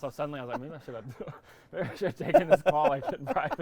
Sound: laughing; laughs

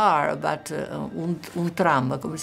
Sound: speaking in Italian

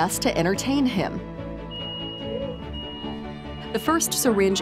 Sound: device beeping

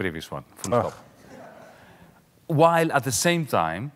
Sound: audience laughing lightly

